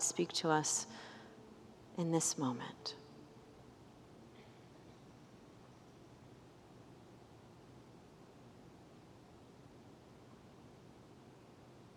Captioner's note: silence